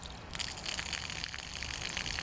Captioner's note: water trickling